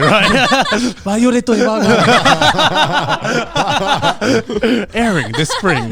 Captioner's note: all laughing